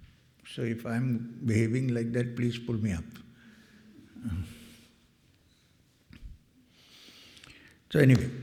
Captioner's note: clears throat